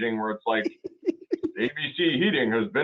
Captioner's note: laughing